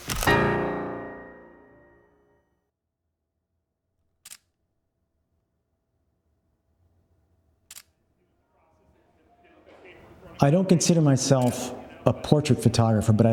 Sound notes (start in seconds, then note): 0.1 camera clicks; 0.2 piano music ends; 4.5 camera clicks